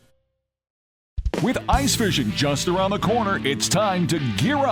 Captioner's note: voiceover